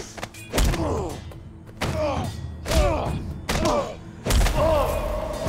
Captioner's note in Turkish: Boğuşma sesleri